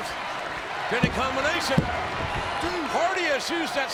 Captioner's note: hand tapping